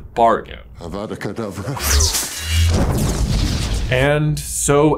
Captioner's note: wind whooshes